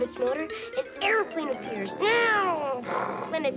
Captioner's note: making airplane sounds